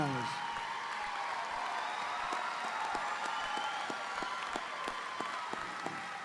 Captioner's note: audience applauding; audience cheering